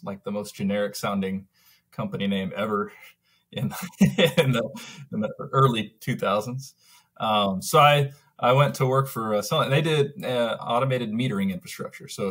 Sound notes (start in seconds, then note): 3.6 laughs